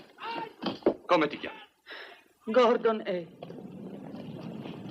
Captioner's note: sighs